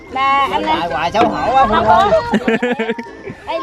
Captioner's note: laugh